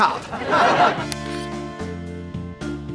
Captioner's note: audience laughs; relaxing music